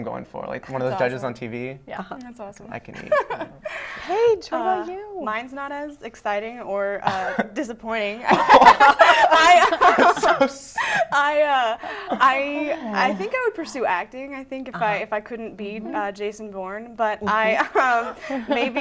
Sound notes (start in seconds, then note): 2.9 laughter; 8.3 laughter; 17.3 laughter